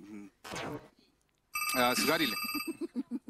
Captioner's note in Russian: звонок